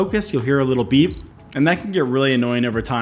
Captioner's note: camera beeping